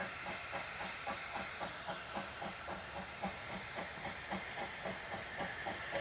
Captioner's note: train passes